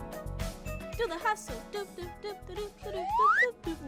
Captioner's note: hums